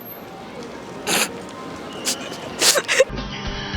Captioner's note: 爆笑; laugh die